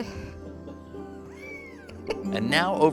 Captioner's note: cat meows; laughs